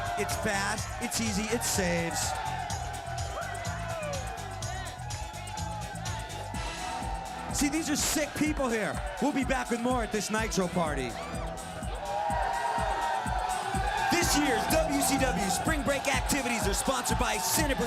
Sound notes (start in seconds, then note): 11.4 crowd cheering